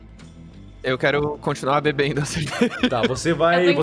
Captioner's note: laugh